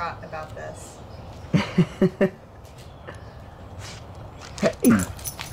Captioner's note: Josh chuckles